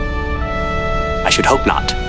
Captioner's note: deadpan, with exaggerated dignity